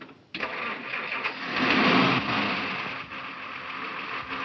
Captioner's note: engine revving